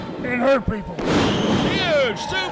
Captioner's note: crowd cheering